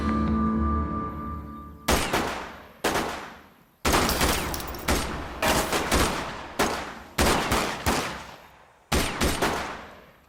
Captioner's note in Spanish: Disparos